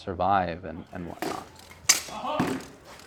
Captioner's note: swords bang against each other